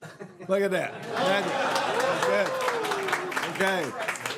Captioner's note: laughter